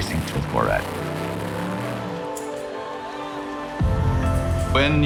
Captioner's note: car revving